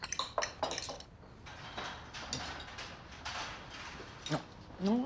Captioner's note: glass clattering; speaking foreign language